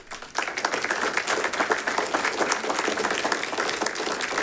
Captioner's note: audience applauding